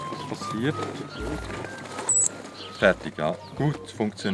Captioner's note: nozzle wheezes from sudden drop of pressure